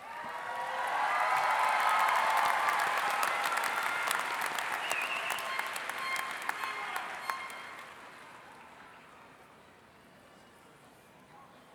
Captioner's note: cheering and Applause